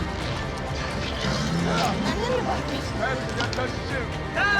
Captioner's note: all chattering